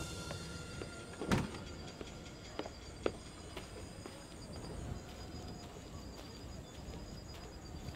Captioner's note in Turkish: Ayak sesi